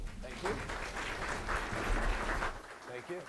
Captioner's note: audience applause